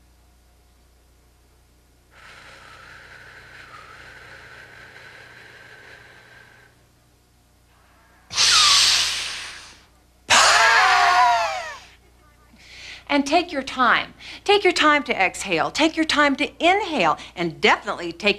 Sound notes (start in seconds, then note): 0.1 breathing; 8.1 screaming